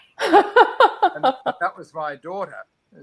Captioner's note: laughs